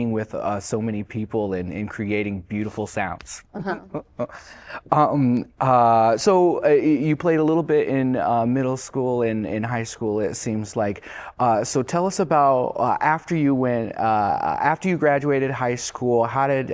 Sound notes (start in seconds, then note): 3.6 laughter